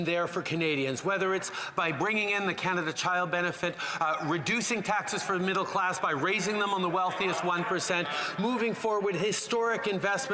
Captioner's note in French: voix de l'interprète